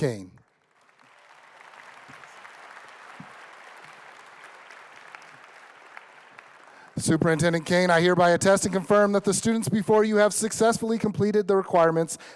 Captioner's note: applause